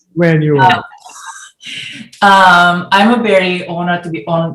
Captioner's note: laughs